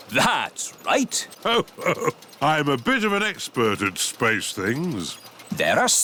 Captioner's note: chuckles